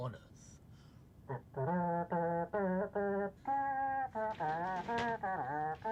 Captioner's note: makes trumpet sounds